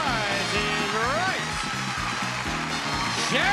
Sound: audience cheering

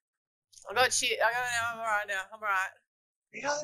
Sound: mumbling to psyche herself up

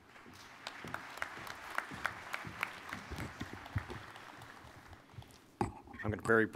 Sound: applause

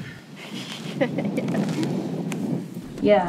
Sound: laughs

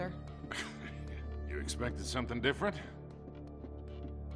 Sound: laugh

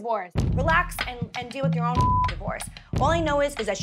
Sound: beep

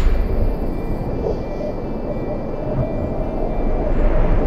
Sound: video camera closing; wind blowing

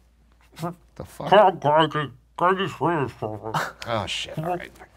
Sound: Professor mumbling

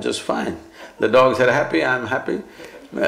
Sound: laughs

